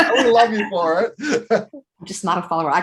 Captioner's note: laugh